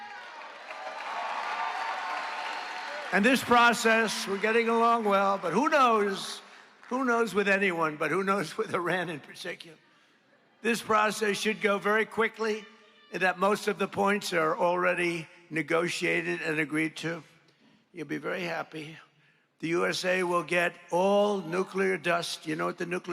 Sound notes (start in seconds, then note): 7.9 applause